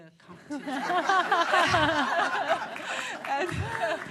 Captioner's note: laughter